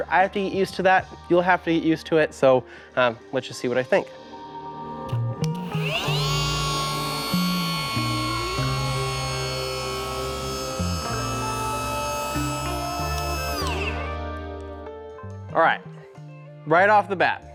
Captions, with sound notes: I have to get used to that. You'll have to get used to it, so let's just see what I think. (machine whirring) All right, right off the bat.